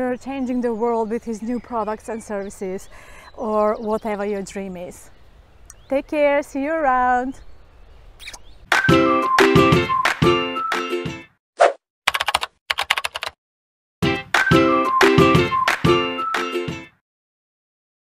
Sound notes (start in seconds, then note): 8.7 upbeat music; 12.0 keyboard tapping; 14.0 upbeat music